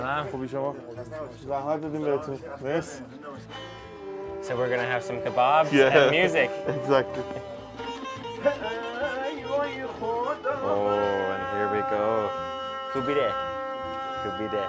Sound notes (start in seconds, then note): 0.1 speaking Persian; 3.8 strumming instrument, vocalizing; 8.4 vocalizing in Persian